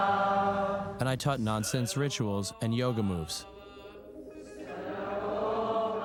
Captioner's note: chanting Continues